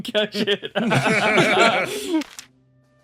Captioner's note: laughs